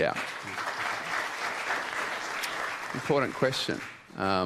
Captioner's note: applause